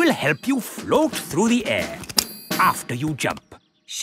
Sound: clicking

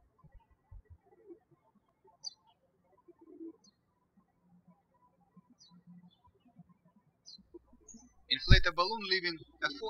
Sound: birds chirping

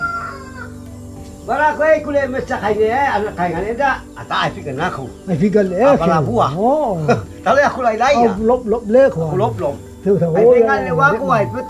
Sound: men speaking in language

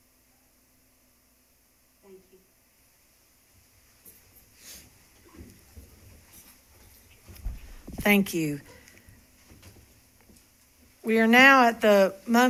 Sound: moment of silence

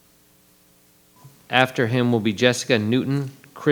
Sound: microphone beeping

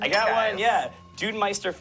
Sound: bell dings

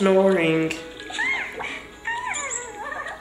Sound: baby cooing; squeaking

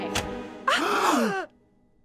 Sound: gasps

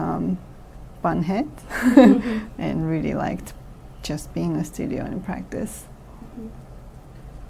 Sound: laughs

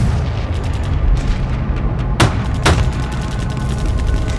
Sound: guns firing

